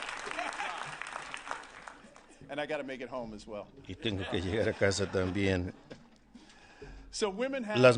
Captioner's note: applause